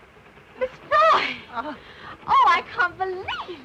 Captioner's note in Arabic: تصرخ الآنسة فروي